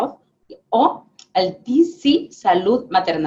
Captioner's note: speaking spanish